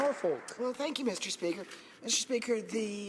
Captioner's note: applause